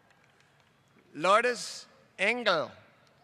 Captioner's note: applause